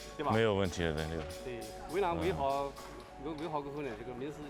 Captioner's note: speaking chinese